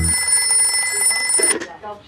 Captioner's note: phone ringing